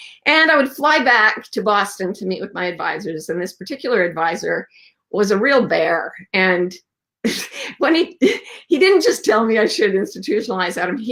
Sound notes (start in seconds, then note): 7.2 laughs